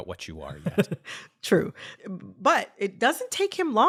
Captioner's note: laughter